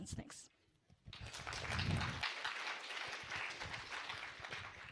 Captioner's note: applause